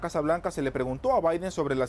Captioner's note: HABLA EN INGLéS